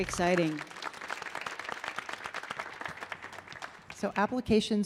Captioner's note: audience applauding